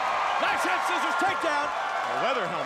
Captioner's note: crowd cheering